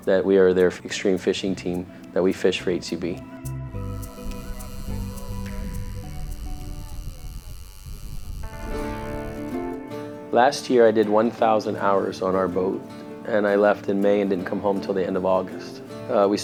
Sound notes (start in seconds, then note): 3.8 fish line reeling; 8.8 gentle music